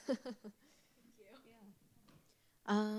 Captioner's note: laughing